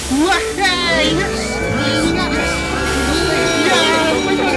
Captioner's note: the twins cheer and whistle, the other engines join in